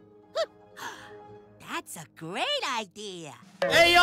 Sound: gasps

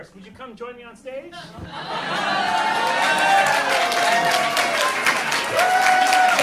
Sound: audience cheering

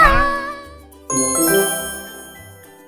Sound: jingle sound

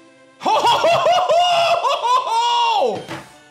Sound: laughs

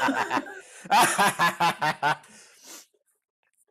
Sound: laughter

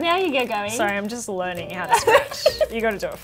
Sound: laughs

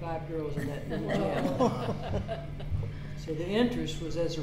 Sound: all laughing

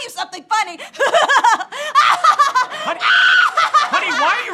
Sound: evil laughter

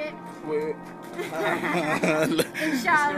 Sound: laughter

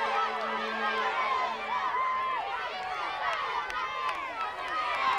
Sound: clapping and cheering

